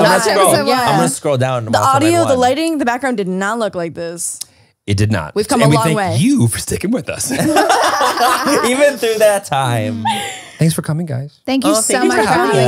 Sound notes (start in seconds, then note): 7.3 everyone laughs